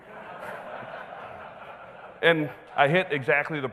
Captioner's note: audience laughing